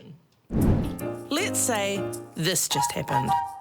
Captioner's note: piano music; voiceover